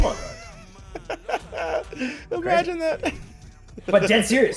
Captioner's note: laugh